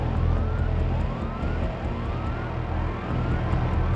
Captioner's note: alarms blaring